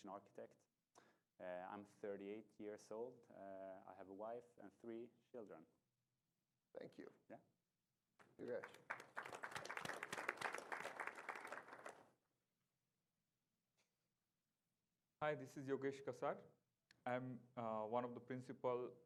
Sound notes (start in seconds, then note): 8.2 applause